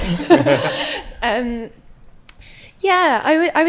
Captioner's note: audience laughs